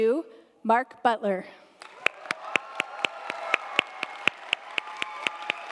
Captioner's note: audience applauding